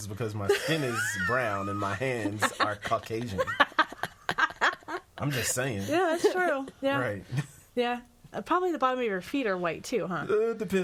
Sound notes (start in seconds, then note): 3.4 all laughing